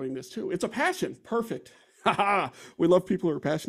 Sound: laughs

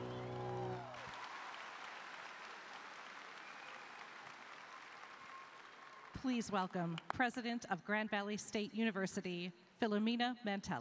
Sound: cheers and applause

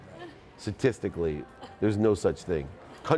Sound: lady laughs

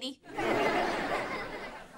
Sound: laughing

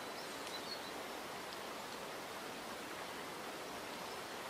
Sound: birds softly chirping

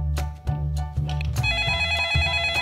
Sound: phone rings

